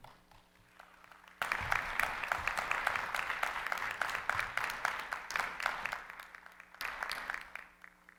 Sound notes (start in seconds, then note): 1.7 audience applauding